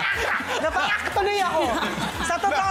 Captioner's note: melai laughing; laughter